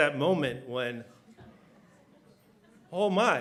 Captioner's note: laughter